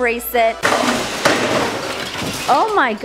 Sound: crashing

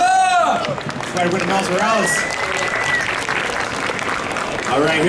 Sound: audience clapping

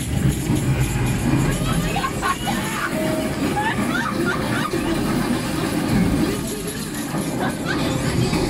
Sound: laughs

